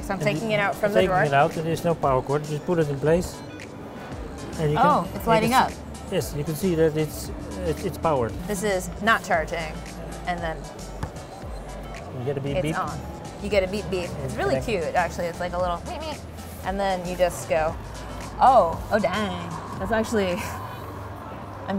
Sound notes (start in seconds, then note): 10.1 beeping; 21.0 laughs